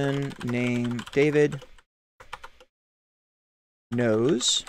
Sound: keyboard typing

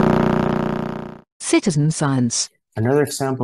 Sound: voice-over

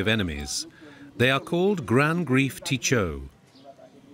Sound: creole spoken audio

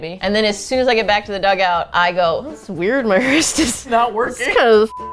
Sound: laughing

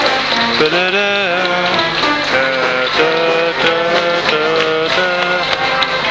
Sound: humming

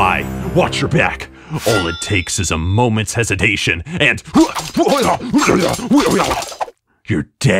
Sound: stabbing noise

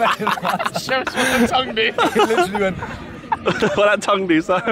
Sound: all laughing; upbeat music continues

